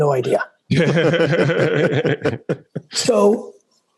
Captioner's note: laugh